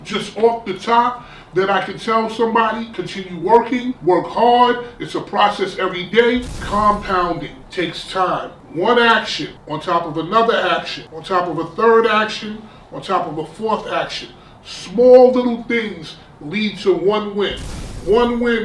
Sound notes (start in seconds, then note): 6.3 crashing noise; 17.4 crashing noise